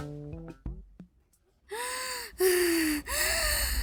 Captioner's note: panting